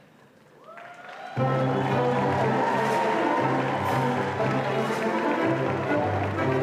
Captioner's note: audience cheers and applauds